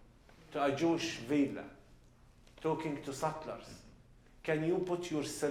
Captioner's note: non-english